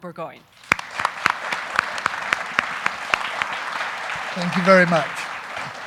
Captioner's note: audience applauding